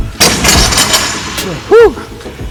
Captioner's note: weights clatter